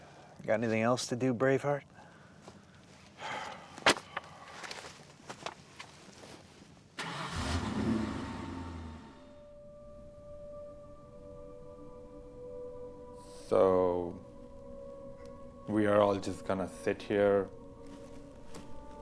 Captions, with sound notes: (vehicle droning) (gentle music) - So we are all just gonna sit here until what?